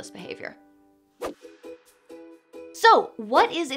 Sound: transition whooshes; bright music

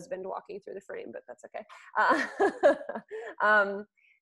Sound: laughing

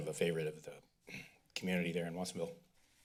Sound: clears throat

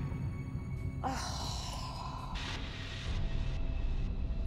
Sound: exhales

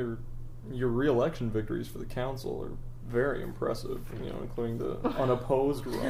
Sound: laughs

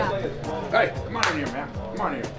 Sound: laughs; claps hands

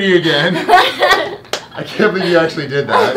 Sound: girls laughing

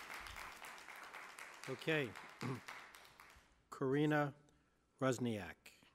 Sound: applause

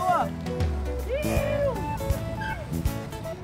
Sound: cheering

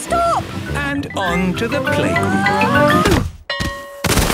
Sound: exclaiming and grunting; bell ringing

